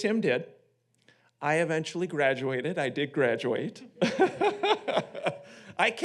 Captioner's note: laughs